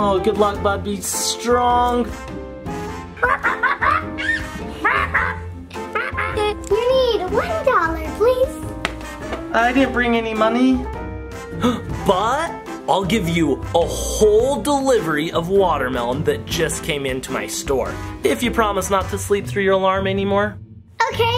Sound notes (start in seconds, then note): 4.2 bird squawking